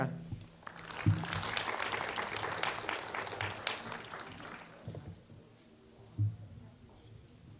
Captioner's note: applause